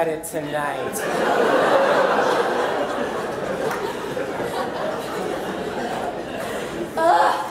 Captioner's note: audience laughter